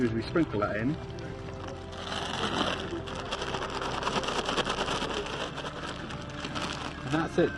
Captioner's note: crinkling and rustling of the bag as it is shaken